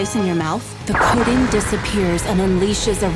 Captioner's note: explosion booms